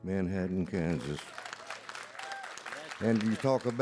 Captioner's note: audience applauds